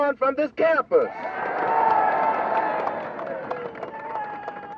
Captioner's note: crowd cheering